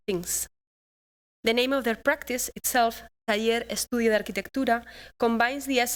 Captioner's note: non-english speech